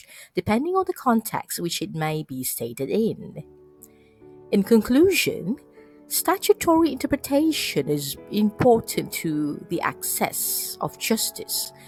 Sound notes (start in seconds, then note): none